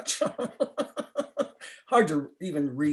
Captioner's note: laughter